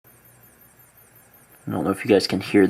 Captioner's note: high-pitched noise